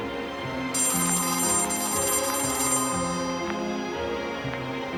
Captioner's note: telephone rings